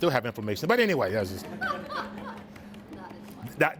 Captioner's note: students laugh